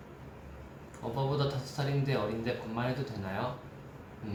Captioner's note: Korean